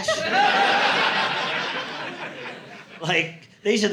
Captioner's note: audience laughing